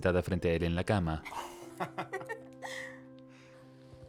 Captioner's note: ríen